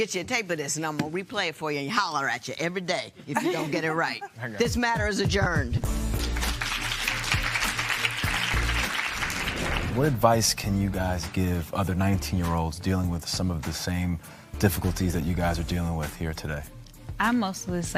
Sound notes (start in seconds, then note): 4.8 laughing; 6.1 applause